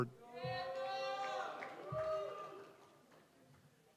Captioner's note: students cheering